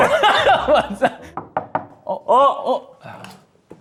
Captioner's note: knocking on the door